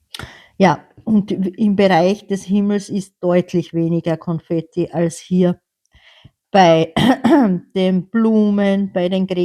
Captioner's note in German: räuspern